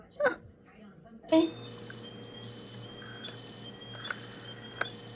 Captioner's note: phone ringing